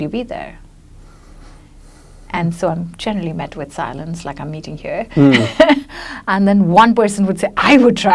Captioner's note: laughs